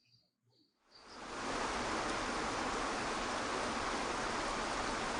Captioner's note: water rushing